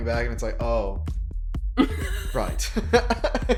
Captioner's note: laughs